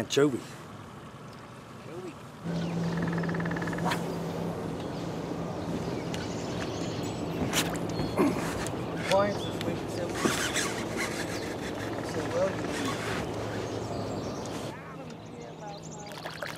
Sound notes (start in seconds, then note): 3.6 boat engine idling; 8.0 rod whipping; 9.0 background chatter; 10.2 reel cranking